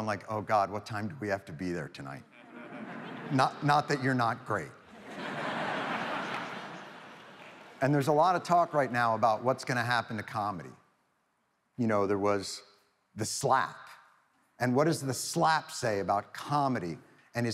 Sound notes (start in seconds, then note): 4.9 audience laughs